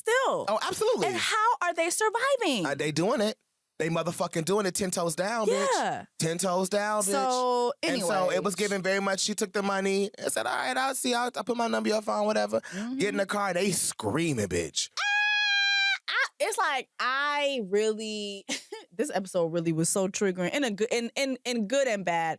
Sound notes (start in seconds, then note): 14.9 screams; 17.9 chuckles